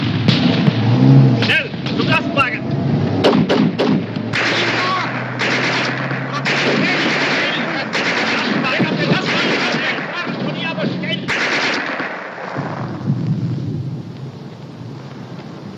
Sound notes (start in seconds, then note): 0.0 gunshots; 4.1 shouting indistinctly in german